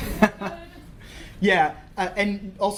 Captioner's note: laughter